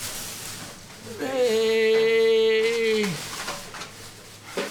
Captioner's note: moaning